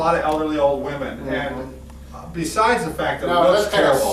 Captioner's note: talking in unison